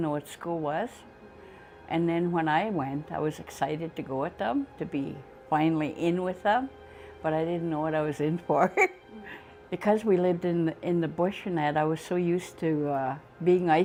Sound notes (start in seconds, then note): 10.6 chuckles